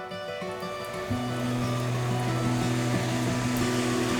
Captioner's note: cars passing